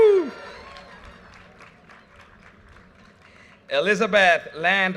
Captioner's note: audience cheers and applause